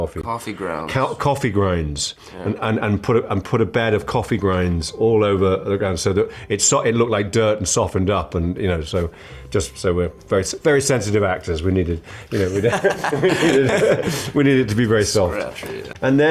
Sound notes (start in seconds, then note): 12.4 both laughs